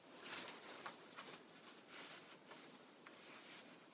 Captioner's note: fabric rustling